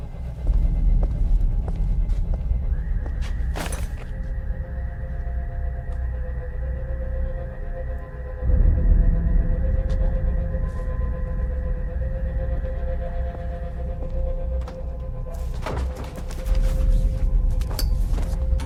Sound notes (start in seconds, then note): 2.8 car alarm blaring; 11.3 tense music continues; 15.7 door clicking